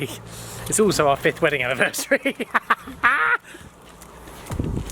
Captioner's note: laughs